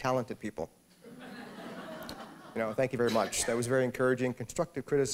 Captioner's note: laughter